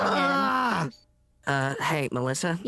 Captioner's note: groaning in frustration